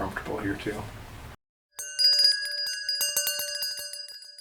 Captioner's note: bells ringing